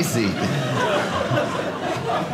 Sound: audience laughing

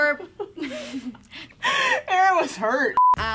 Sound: laughing

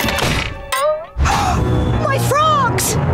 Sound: gasping

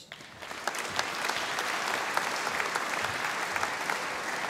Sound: audience applauding

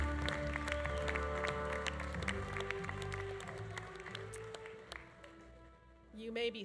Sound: audience cheering continues; audience applause continues

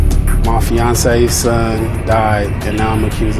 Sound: voiceover

